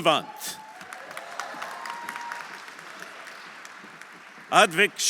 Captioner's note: audience cheering; audience applauding